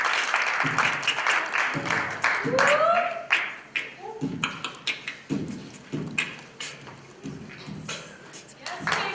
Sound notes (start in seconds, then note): 2.1 beatboxing